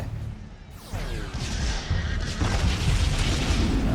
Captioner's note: gunfire, explosions